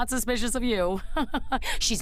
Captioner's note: sarcastic laugh